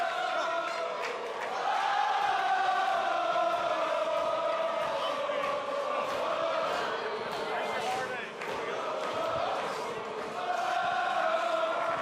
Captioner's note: crowd cheering